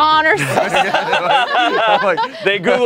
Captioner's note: laughing